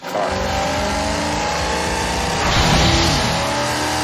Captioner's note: engine revs